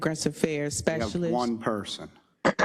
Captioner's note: cough